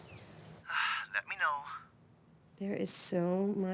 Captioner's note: sighs